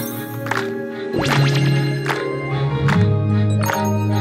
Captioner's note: Clap